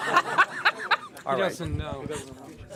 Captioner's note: laughter